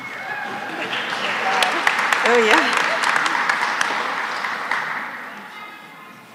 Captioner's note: applause